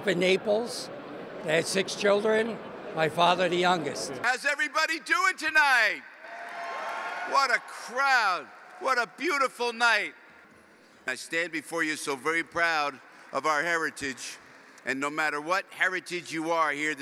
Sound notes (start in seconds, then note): 6.2 applause